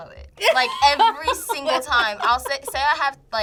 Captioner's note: laughs